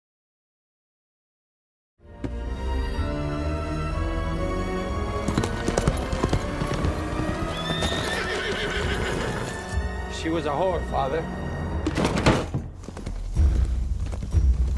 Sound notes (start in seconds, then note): 2.2 foreboding music; 5.4 horse clopping; 6.4 horse neighing; 11.9 drawers crashing; 14.5 intense music